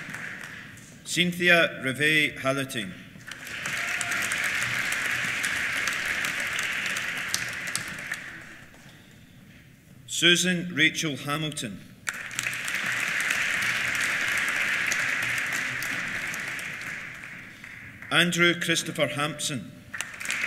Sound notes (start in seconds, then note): 3.2 applause; 3.3 cheers; 12.0 applause